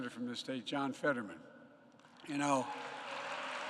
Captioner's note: applause